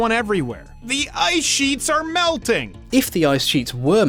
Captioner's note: reads text with sarcastic alarm